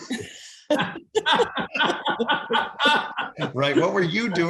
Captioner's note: group laughing